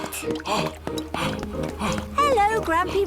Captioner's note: panting